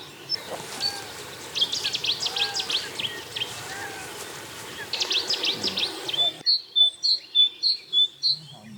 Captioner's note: birds chirping